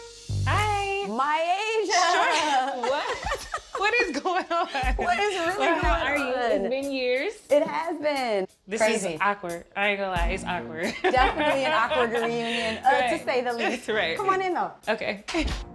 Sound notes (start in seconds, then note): 2.0 laughs; 2.2 both laughing; 10.9 chuckles